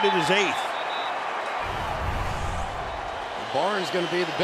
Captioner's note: whistle